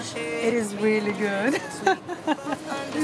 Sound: laughs

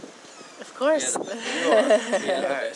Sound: laughs

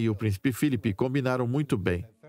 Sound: voiceover

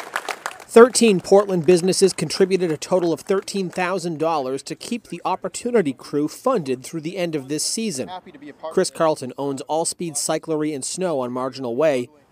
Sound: applause

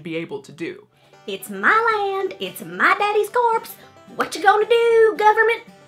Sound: country accent

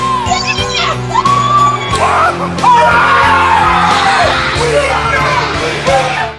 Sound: celebratory screaming

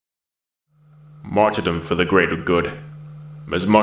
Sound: voiceover

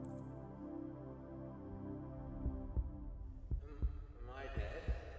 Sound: heartbeat

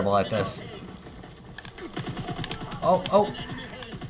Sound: game shooting

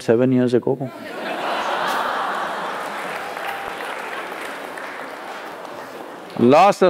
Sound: laughter/applause

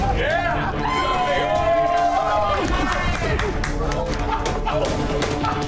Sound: men laughing; patrons cheering; dramatic music

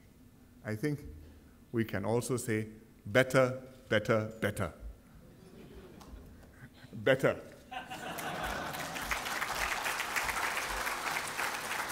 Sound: laughter and applause

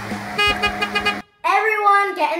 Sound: honking

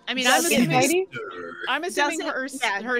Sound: overlapping chatter

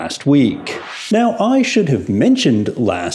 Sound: air whooshing

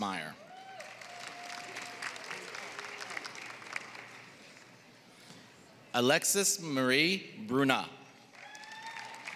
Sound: applause; applause

